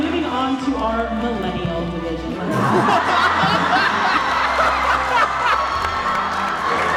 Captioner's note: everyone laughing